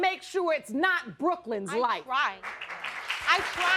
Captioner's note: audience applauding